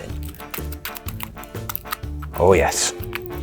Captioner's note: tinfoil scrunches